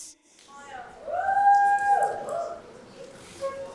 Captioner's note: audience cheers